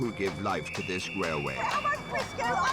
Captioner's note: whistle blasts